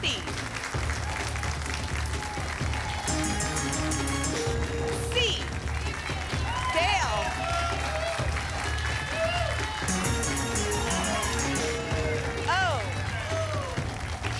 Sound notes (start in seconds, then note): 0.2 applause; 3.0 pinging sounds; 7.4 applause and cheering; 9.8 pinging sounds